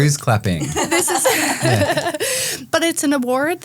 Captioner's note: group laughing